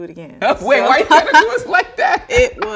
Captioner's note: laughing